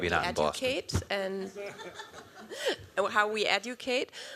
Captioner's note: laughter